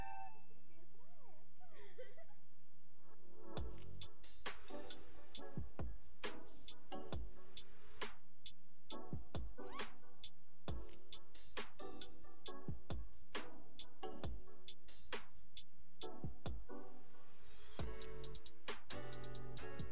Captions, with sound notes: - You did good, that's good! (girl giggling) (cool vibe music)